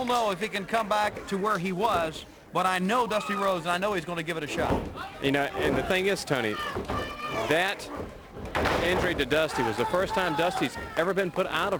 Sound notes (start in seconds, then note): 7.3 crowd chatter